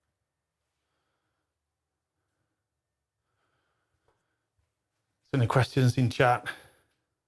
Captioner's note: silence